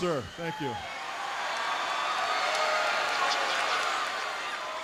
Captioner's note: audience cheering